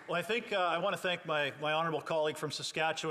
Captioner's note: some Applause